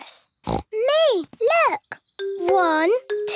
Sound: snorting

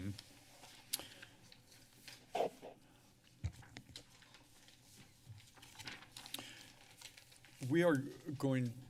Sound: paper rustling

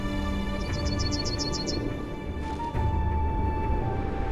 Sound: sparrow tweets

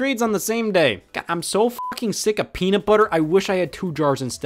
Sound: beep

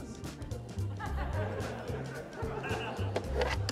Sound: laughter

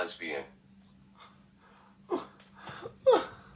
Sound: shocked reaction

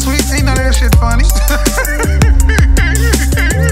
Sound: kevin samuels laughs

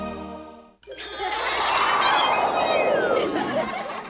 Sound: kids laughing

